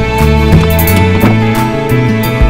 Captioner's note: Door opens